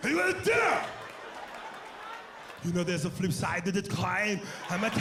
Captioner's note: imitates Schwarzenegger